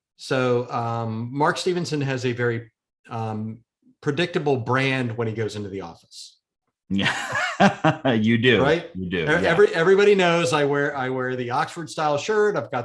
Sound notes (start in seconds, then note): 6.9 laughs